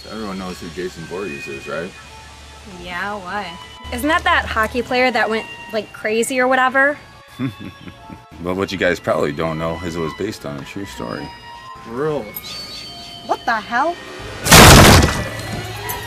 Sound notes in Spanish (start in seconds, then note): 7.4 Risas